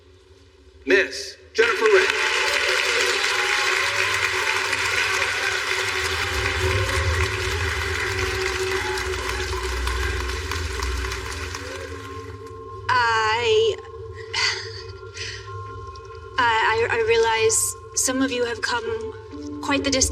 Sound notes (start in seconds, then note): 2.1 peoplple clappingng; 2.1 tensese music